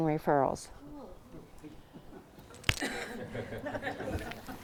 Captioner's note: laughter from audience